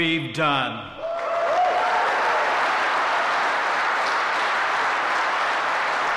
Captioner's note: applause